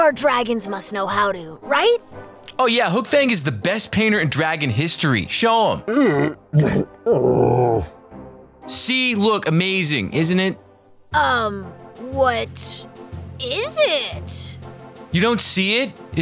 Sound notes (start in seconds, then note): 5.8 grumbles